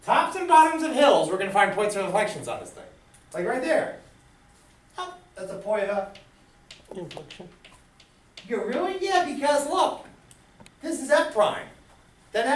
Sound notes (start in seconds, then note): 7.2 voiceover